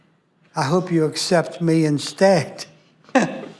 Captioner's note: laughs